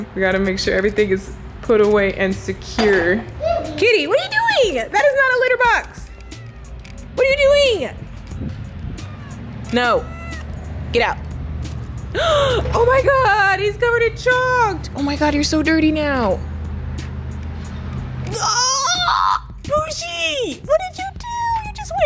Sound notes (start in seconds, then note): 12.1 gasps; 18.5 raven shrieks